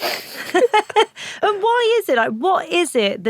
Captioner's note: laughs